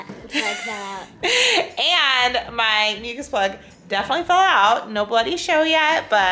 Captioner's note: laughs